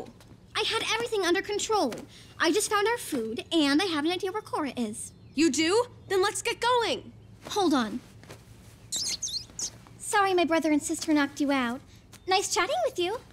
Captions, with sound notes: I had everything under control. I just found our food, and I have an idea where Korra is. You do? Then let's get going. Hold on. [squeaking] Sorry my brother and sister knocked you out. Nice chatting with you.